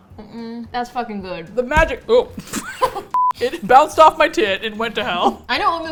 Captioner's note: both laugh